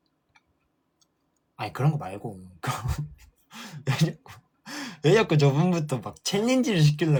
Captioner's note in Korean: 웃음